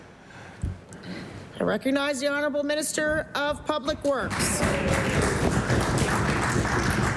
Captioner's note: some Applause